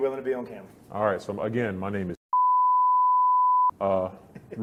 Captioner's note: beep